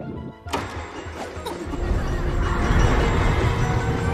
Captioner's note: stammers; children laughing